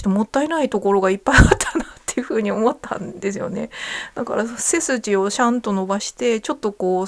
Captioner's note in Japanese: 笑い